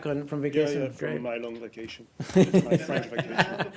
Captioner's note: laughter